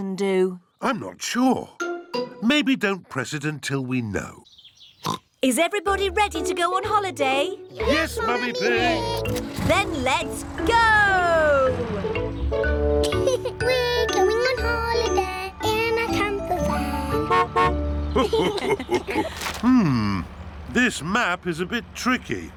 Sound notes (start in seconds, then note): 5.0 oinks; 13.0 laughs; 17.0 horn honks; 18.1 laughter